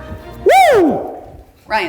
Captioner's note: exclaims